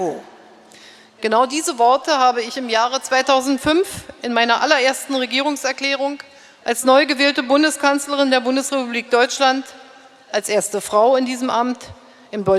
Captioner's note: speaking in German